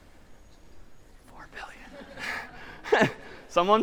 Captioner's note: whispers